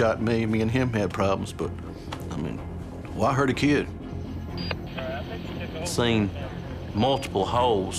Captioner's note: none